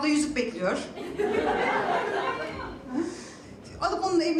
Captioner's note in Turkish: Gülüşlemeler